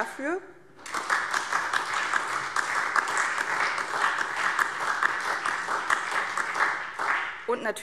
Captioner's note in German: Beifall SPD